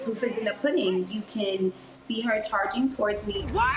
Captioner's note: shouting